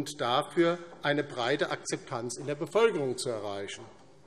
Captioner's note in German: none